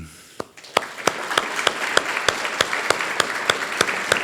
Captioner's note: audience applauding